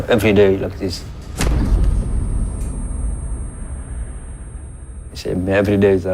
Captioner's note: high-pitched tone